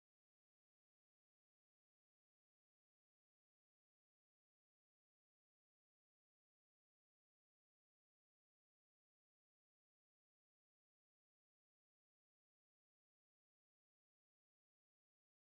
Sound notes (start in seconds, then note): none